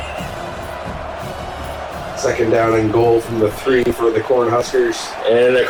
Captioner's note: crowd Noises